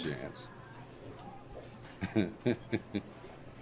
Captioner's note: Chuck laughing